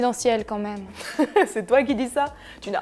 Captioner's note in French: rigole